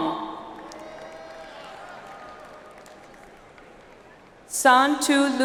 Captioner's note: audience applauds